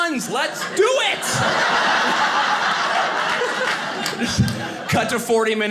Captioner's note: audience laughing